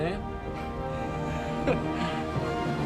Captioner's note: both laugh